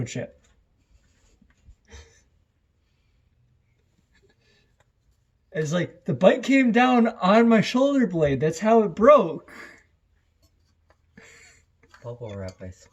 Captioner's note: laughter